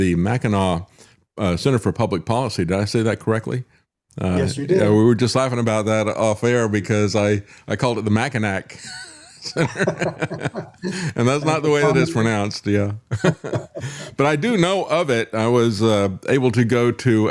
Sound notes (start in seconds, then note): 8.7 laughing